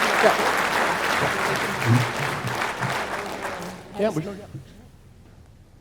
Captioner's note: audience applauding